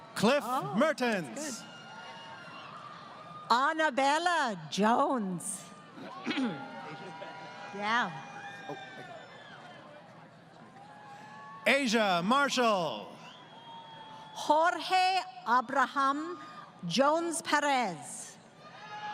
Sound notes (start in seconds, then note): 6.0 crowd Cheering